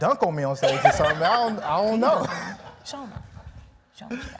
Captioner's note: laughing